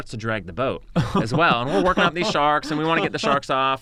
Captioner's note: laughs